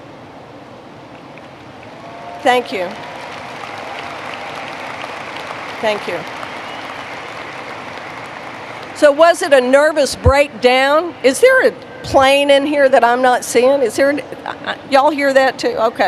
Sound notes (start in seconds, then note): 1.8 applause; 11.2 sound of rain hitting roof